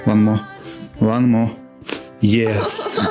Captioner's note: crunches of bones; laugh